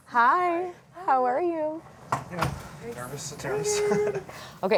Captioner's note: laughs